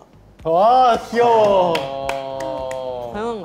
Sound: applause

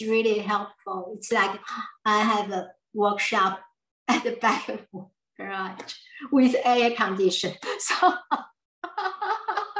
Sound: laughs

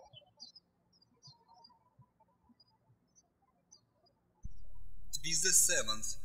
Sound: birds chirping

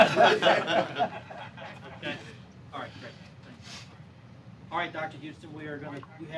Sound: laughter

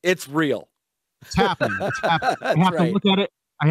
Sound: laughing

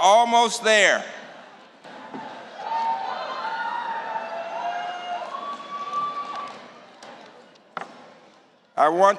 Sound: cheering

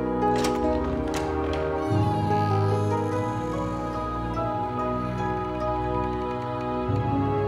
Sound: door squeaks open

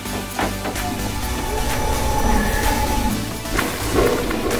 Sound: lion roar; electrical static

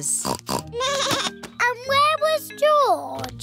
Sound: snorts; bleats

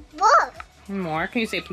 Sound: speaking gibberish

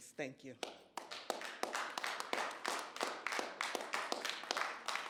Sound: audience applauding

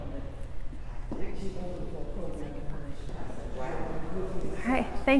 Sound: muffled chatter

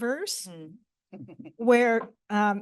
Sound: chuckles

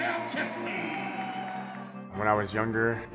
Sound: crowd cheering

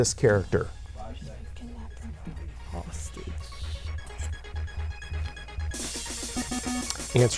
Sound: wispering

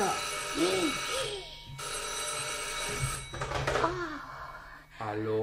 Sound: the phone rings

